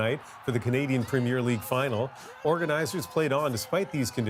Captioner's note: cheers and Applause